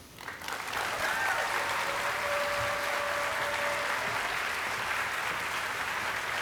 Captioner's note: audience applauding and cheering